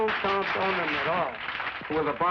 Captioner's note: applause